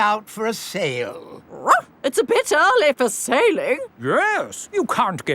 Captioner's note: barks